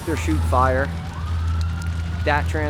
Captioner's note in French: crépitement du feu; les sirènes continuent de retentir